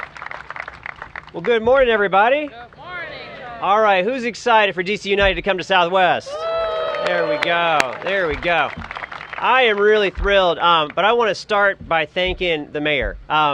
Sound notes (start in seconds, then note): 0.0 applause; 6.2 cheers and applause